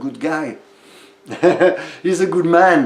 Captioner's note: he laughs